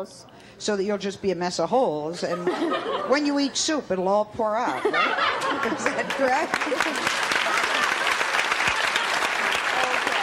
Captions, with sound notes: So that you'll just be a mess of holes and when you eat soup it'll all pour out. (laughs) Is that correct? (applause)